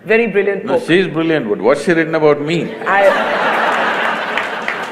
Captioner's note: laughter/Applause